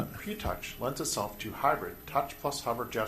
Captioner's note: voiceover